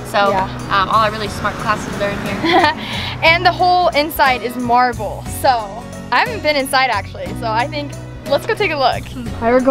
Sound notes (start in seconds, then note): 2.3 laughs